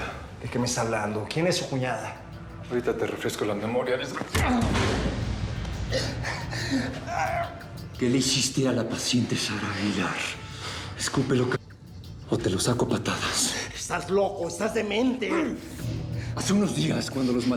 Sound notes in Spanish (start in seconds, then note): 5.8 quejido